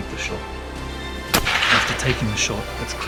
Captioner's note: shot fired